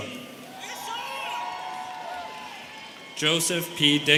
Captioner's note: students cheering